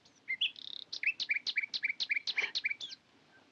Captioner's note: birds continue chirping